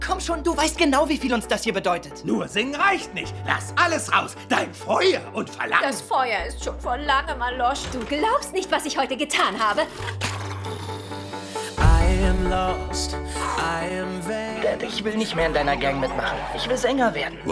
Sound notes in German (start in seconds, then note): 10.4 Schnarchen